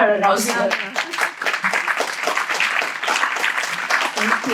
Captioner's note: audience claps